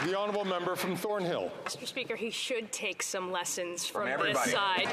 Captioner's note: some Applause